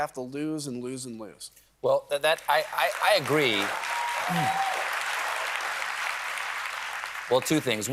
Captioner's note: applause